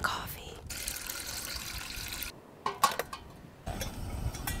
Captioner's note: water pouring